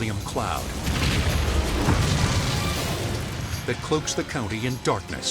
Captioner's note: fuel explodes